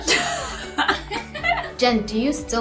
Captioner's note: both laugh